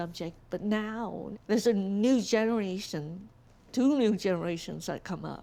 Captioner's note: none